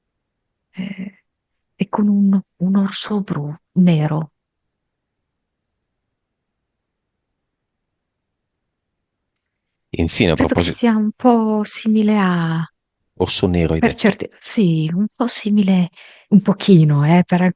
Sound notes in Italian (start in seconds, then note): 1.3 schiarire la voce